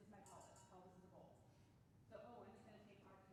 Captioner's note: bowl clanging